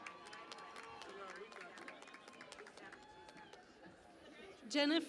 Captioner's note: cheering and Applause